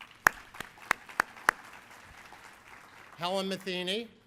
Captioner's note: applauding